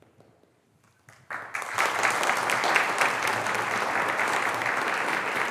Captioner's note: audience applauding